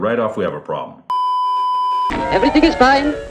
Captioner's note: beeeeeeeeeeeep